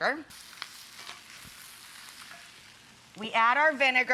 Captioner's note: pan sizzling